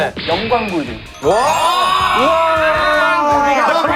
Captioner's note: everyone Cheering